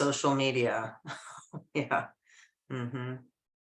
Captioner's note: chuckles